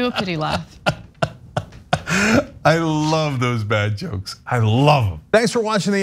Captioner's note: laugh